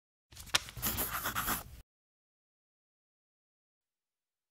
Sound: pencil scratching

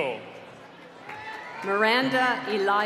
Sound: applause

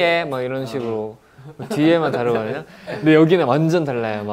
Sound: laughing

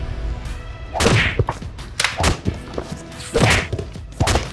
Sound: smacking sounds

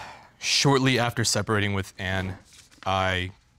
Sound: none

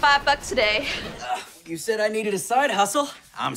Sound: grunting

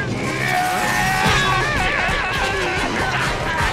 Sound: screaming

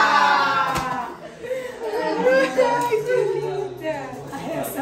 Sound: chuckles

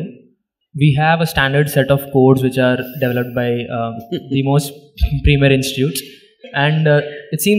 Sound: Sadhguru laughs

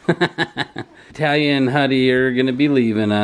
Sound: laughing

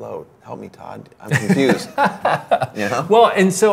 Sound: laughs

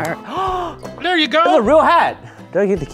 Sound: gasps

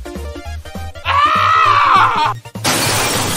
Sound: scream

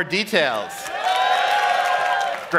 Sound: cheering

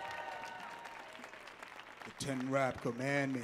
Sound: audience clapping and cheering

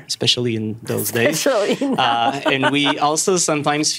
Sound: laughing

